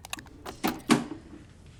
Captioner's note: latch clicking